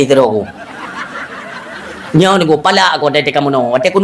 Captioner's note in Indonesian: tertawa